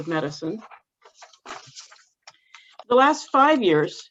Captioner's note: pages shuffling